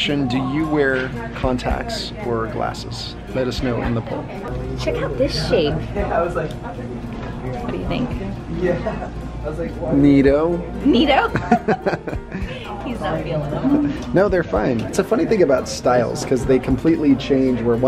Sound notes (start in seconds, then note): 11.3 laughs